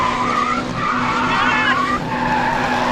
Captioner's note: laughing